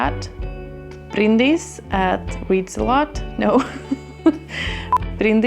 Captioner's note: laughing